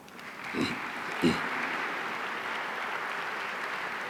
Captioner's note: audience applauding